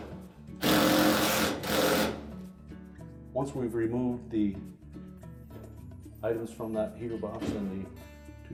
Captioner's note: drilling noise